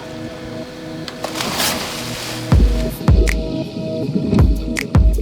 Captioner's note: water splashes; slow electronic music